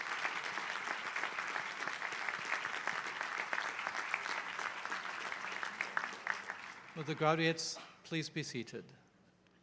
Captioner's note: applause